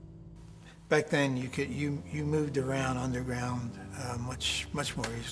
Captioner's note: voiceover